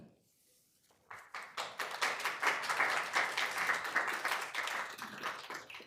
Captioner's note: attendees clapping